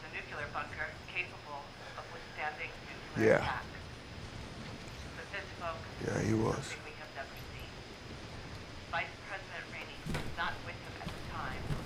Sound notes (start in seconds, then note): 0.2 woman: On Radio; 5.1 distant radio chatter; 9.9 woman: On radio